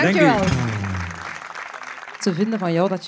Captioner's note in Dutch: applaus